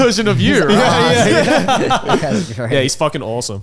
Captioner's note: all laughing